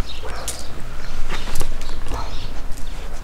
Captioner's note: birdsong